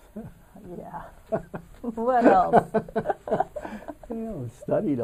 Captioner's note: laughter